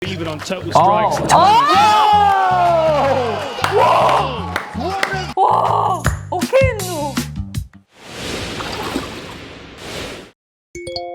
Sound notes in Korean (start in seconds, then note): 1.3 비명